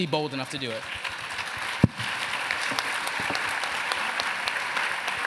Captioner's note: applause